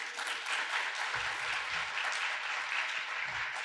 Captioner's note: audience applauds